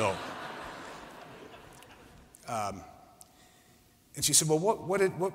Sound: laughter

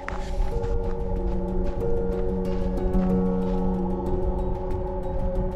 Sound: footsteps crunching

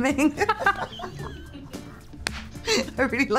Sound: Olivia and Emma laugh

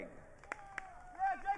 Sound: audience cheering

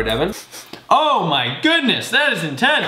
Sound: sniffing

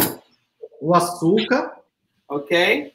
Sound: speaks portuguese

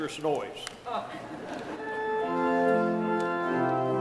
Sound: laughter

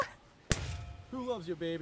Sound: metal clank

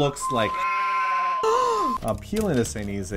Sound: gasps

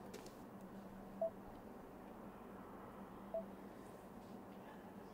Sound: phone beeping

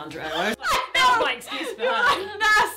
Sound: laughs

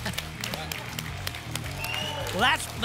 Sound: applause and cheering

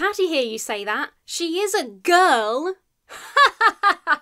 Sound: imitates laughter

